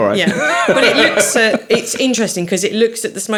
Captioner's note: all laughing